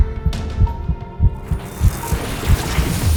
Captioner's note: heartbeats; suspense music; magical buzzing